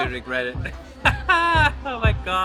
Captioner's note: laughing